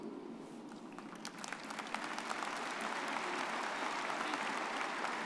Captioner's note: everyone applauding